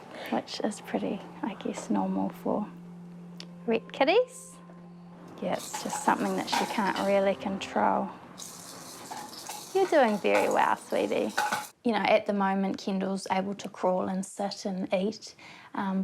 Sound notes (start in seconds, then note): none